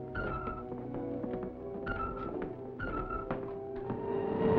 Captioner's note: device beeping